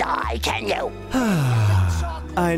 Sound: sighing

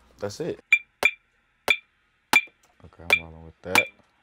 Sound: glass clinks

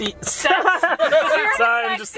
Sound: all laughing

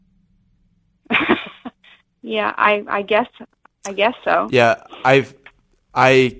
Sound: laughs

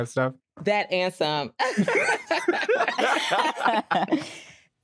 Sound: all laughing

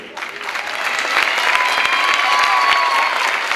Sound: clapping

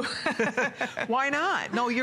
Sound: laughter

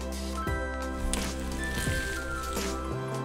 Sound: breaks bones

